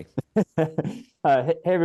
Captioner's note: laughs